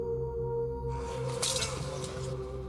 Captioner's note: shouting